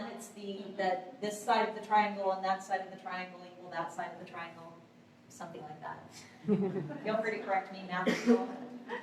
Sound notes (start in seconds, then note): 6.4 laughter